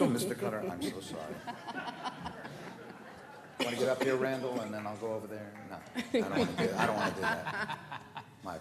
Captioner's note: laughter